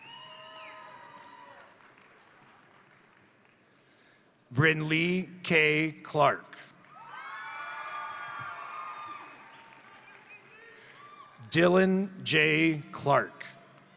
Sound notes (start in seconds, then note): 0.0 crowd cheering; 0.0 crowd applauding; 6.8 crowd applauding; 6.8 crowd cheering